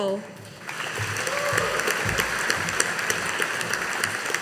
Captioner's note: audience applauding